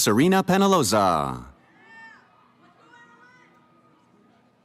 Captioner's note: cheering